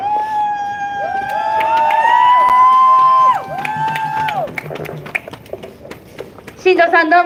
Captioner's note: applause